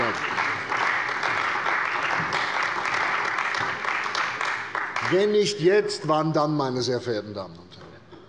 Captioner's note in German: Beifall bei der CDU und dem BÜNDNIS 90/DIE GRÜNEN